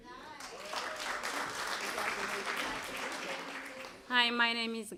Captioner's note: applause